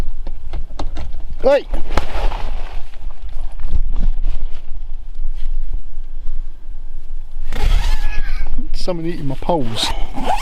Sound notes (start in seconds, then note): 7.4 zipper noise